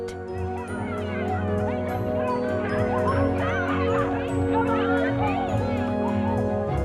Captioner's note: kids cheering, shouting joyously